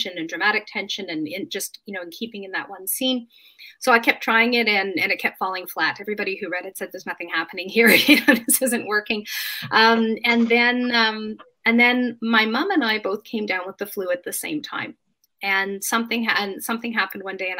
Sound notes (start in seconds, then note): 8.3 laughs